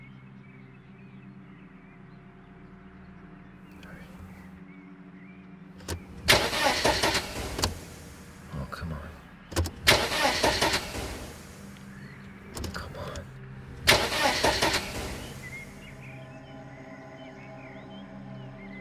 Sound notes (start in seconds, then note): 5.8 engine chokes; 13.6 engine chokes; 15.4 eerie music